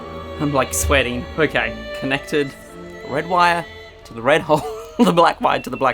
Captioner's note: laughing